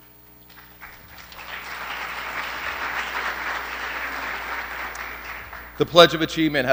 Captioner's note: applause